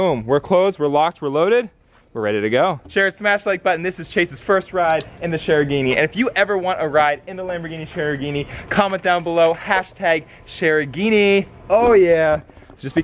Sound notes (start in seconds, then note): 4.9 mouse clicking